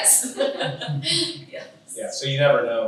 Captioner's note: all laugh